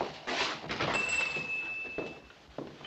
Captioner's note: bell ringing